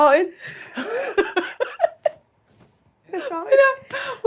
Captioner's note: laughs